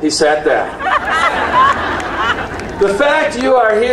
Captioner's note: audience cheering and applauding